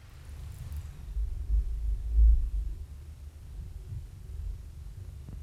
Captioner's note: slow intense vibrations